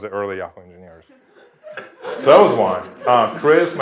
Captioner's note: laugh